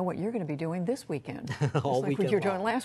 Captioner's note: laughter